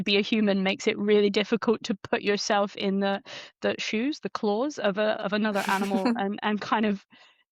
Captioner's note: chuckles